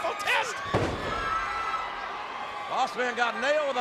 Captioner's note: body thuds